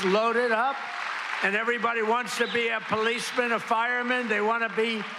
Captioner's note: cheers and applause